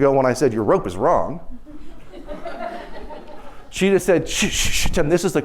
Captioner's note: laughter